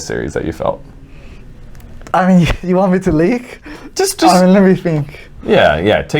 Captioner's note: laughs